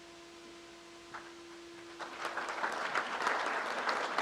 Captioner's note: crowd applauds